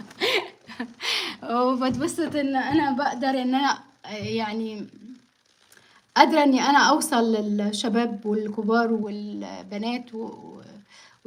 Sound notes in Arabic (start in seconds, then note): 0.0 ضحك; 0.1 شهيق